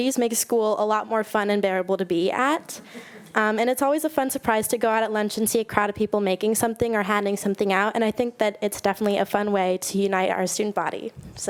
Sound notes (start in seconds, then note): 2.7 attendee laughing